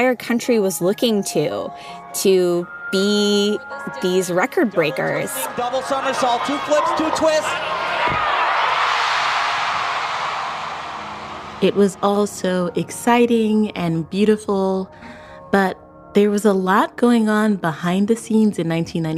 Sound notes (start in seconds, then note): 10.3 crowd cheers